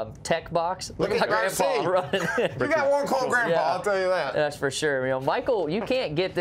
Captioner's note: laughter